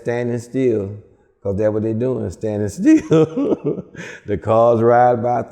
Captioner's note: laughs